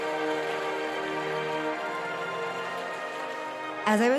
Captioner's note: applause and cheers